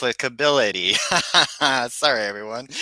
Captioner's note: laughs